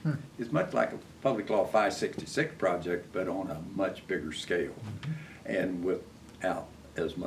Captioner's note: laughs